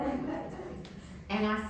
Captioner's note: audience laughing